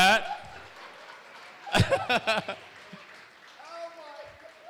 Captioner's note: laughter